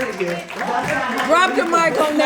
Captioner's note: audience applauding